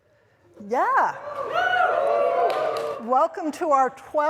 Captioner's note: cheers